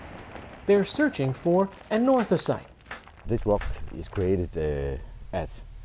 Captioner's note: explosion